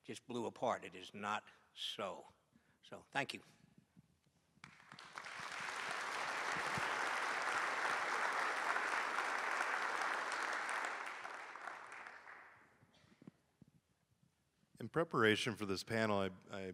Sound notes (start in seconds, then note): 4.6 applause